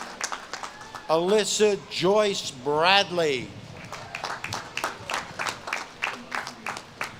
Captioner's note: audience claps and cheers